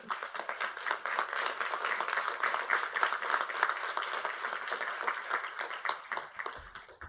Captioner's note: applause